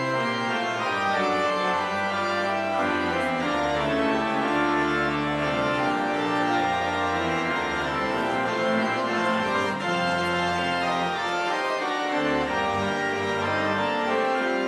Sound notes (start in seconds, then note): none